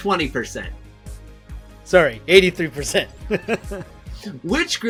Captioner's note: chuckles